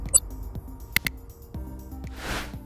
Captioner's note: button clicking; air whooshing